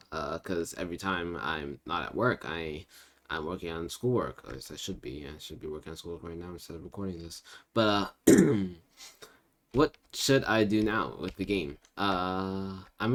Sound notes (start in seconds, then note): 8.2 definitely not nervous cough